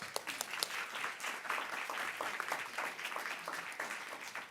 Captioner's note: audience clapping